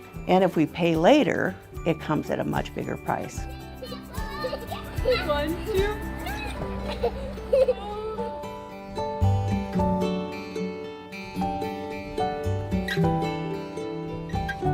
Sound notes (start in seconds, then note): 3.4 child chattering; 3.4 child helper chattering; 9.3 gentle music